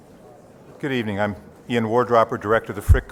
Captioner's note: voiceover